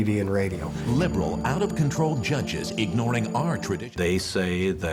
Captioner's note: voice on TV advertisement